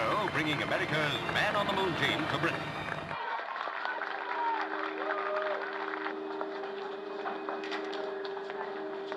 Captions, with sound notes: bringing America's man on the moon team to Britain. (applauding)